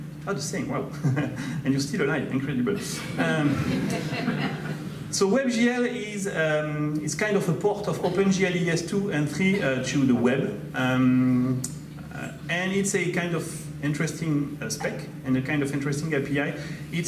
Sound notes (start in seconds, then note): 1.2 laughs; 2.9 audience laughs